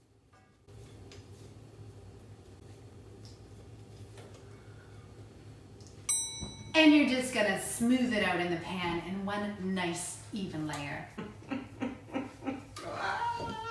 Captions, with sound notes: (bell dings) - And you're just gonna smooth it out in the pan in one nice even layer. (chuckles)